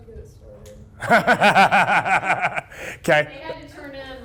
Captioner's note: laughs